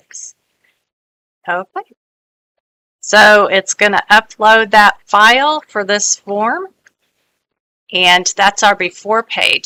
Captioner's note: audio from a video on the web in the background